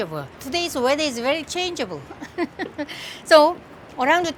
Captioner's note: laughs